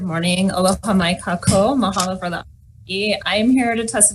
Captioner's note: speaking in foreign language